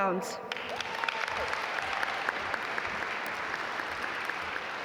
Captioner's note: audience applaud